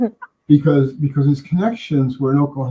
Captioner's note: stoner laughs